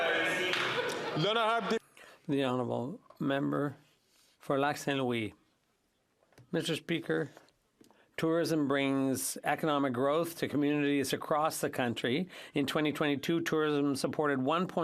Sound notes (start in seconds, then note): 2.1 some Applause